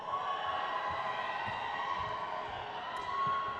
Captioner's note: crowd cheers